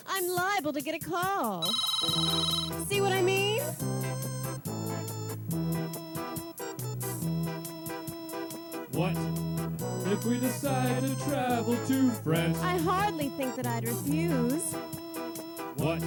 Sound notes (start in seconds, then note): 1.6 phone rings